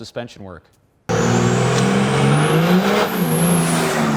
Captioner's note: engine revving